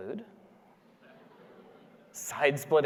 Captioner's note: audience laughing